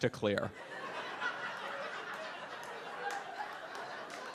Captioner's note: audience laughs; audience applauds